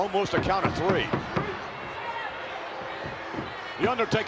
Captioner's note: crowd yelling